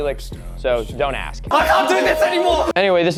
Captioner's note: screaming